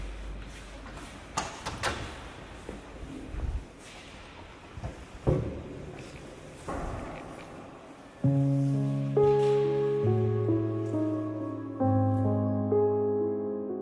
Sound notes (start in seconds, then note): 1.4 door clicks open; 7.4 somber piano music